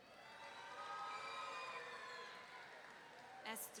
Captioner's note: audience cheering